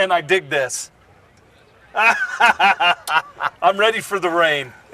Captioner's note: laughter